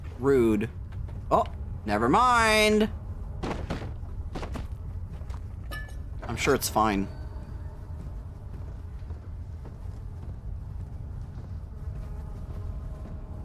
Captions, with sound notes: Rude. Oh, never mind! [Clatter] I'm sure it's fine.